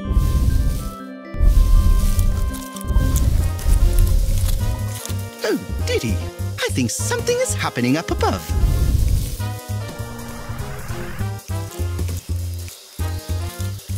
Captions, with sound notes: [Loud rumbling noises] Oh diddy! I think something is happening up above. [Rumbling continues]